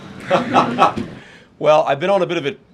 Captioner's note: laughter